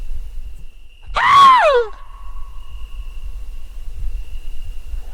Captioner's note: screaming